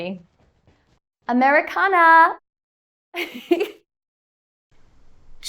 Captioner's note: chuckles